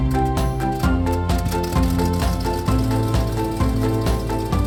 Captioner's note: airplane propeller spinning